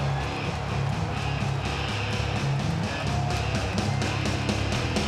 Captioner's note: crowd cheering; energetic rock music